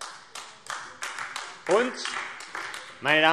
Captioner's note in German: Beifall AfD